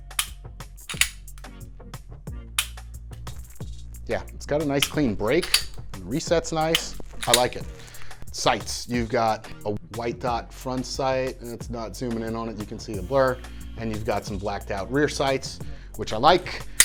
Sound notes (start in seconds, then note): 0.8 slide clicks; 0.8 trigger clicks; 2.5 trigger clicks; 5.3 trigger and slide clicking